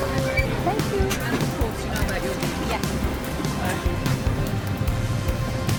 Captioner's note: background voices and sounds